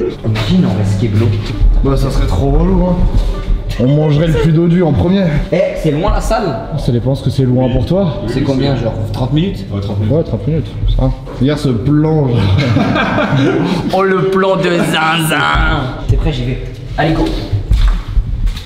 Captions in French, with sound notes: - Imagine on reste qué-blo - Bah ça serait trop relou hein On mangerait le plus dodu en premier - Eh, c'est loin la salle ? - Ça dépend ce que c'est “loin” pour toi - Oui Oui c’est loin - C’est combien ? Genre 30 min ? - Ouais 30 min - Ouais 30 min Regarde ce plan... *rires* - J’avoue - Oh le plan de zinzin ! - T’es prêt ? J’y vais - Allez, go